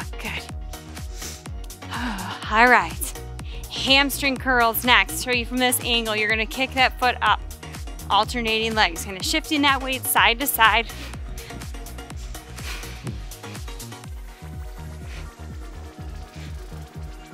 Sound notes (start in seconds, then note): 1.1 exhales loudly; 11.3 upbeat electronic music